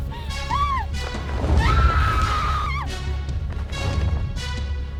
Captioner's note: Connie screams